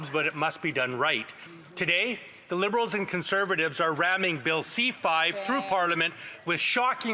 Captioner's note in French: voix de l'interprète